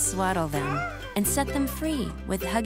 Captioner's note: cooing